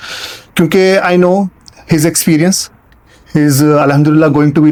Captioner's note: nasal sound